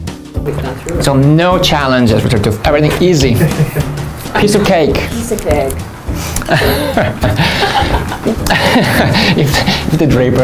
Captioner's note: laughs